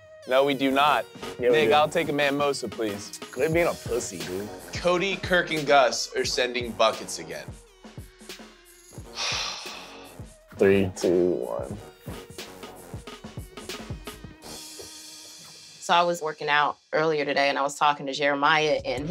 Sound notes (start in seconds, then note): 9.1 sighs; 13.1 hip-hop music